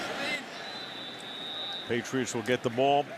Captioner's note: whistle